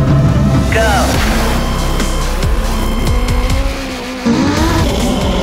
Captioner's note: engines growl; engines roar